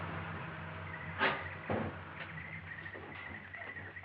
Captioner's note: birds chirping